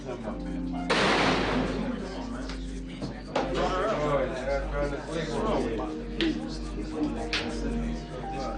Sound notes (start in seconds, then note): 1.9 scratching